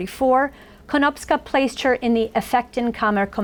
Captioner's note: foreign language